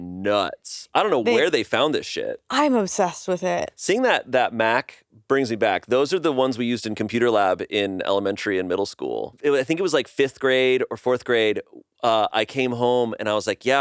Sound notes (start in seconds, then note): none